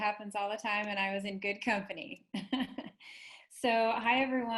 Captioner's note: chuckles